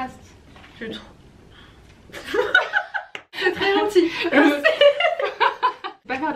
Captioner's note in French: rires